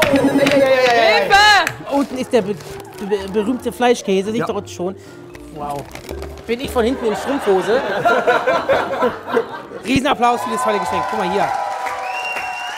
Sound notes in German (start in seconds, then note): 6.8 Lachen